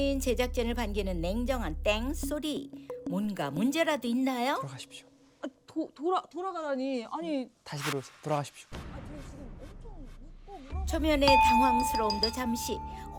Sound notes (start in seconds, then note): 4.4 whispering